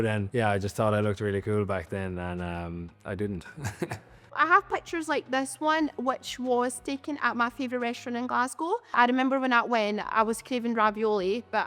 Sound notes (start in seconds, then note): 3.5 laughs